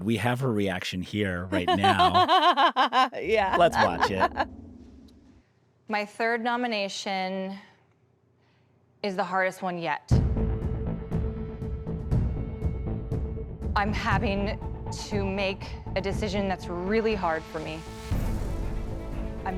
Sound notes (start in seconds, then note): 1.4 laughs; 11.9 dramatic music